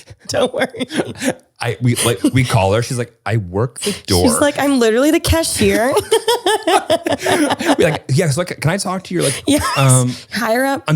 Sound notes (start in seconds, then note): 5.5 both laugh